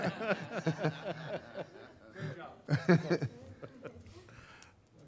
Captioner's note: group laughs; talking off microphone